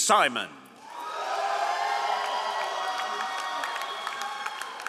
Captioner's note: all applauding